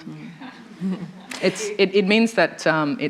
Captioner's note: laughter